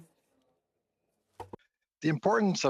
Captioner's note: speaking French